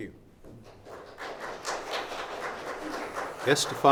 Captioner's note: clapping